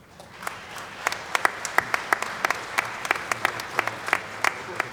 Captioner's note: applause